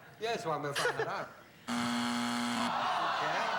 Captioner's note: mumbles; buzzer